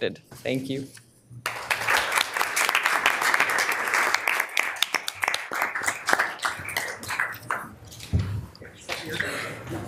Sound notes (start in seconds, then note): 1.4 audience applauding